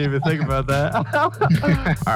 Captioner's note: both laugh